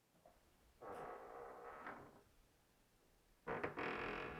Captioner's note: door creaking